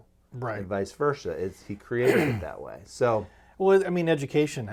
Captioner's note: clears throat